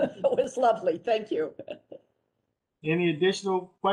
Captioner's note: laughter